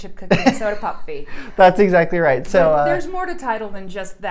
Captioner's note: laughs